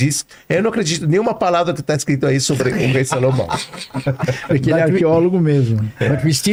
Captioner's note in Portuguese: risadas